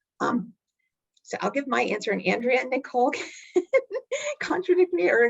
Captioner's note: chuckling